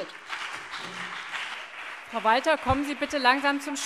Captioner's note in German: Beifall BÜNDNIS 90/DIE GRÜNEN und vereinzelt CDU